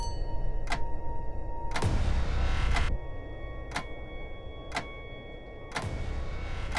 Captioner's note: clock ticking; clock ticking loudly; eerie tone